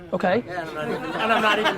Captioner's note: crowd laughs